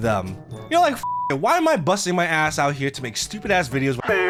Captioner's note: beep